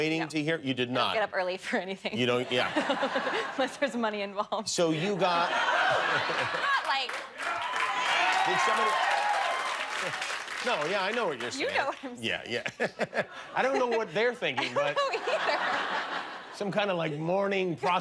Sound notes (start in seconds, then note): 5.0 laughter; 8.8 laughter; 11.8 cheers and applause